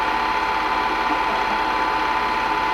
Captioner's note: chuckle